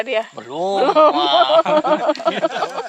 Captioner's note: all laughing